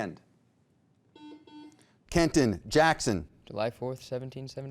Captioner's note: buzzer beeping